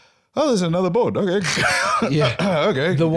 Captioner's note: laughs